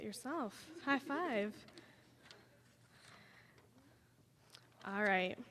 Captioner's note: audience chuckling